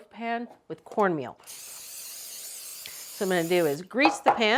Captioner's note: spray spritzing